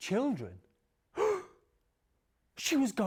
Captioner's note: gasps